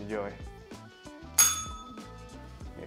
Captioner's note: bell rings